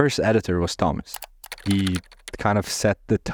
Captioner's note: keyboard clicking